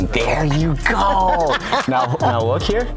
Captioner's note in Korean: 웃음